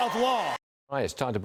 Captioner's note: applause